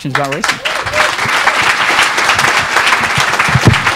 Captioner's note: audience clapping